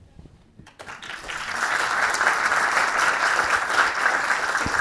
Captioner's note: audience clapping